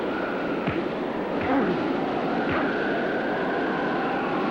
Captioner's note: fist thuds; fists thud